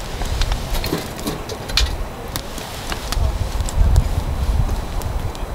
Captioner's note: sparks flying